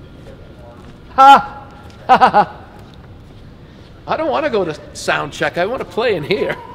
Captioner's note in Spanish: Risas